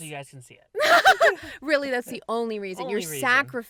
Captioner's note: both laugh